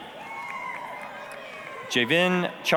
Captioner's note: applause, cheering